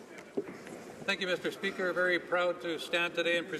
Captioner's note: speaking French